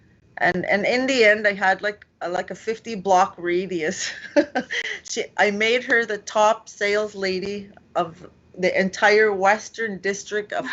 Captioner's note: laughs